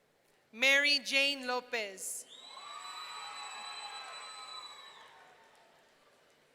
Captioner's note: audience cheering